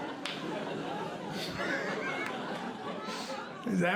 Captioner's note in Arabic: يضحك